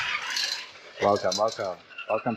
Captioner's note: cane clinking